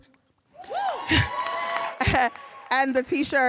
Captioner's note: audience cheering and applauding